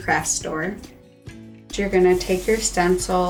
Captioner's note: stencil swishing